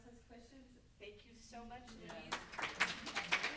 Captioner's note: group applauding drowns out speaking